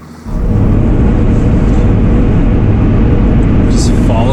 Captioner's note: car engine humming